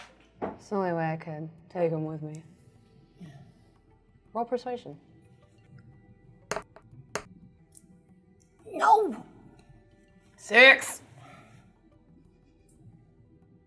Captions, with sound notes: - It's the only way I could take him with me. - Roll persuasion. (die rolling) - No! Six.